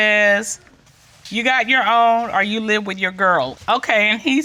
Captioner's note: judge dana reading